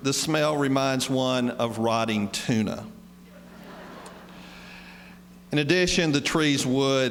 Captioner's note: laughter